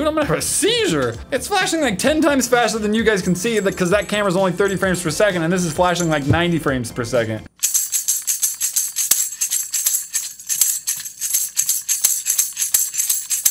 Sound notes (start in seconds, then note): none